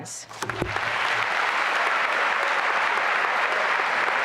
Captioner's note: applause